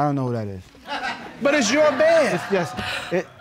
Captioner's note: audience laughing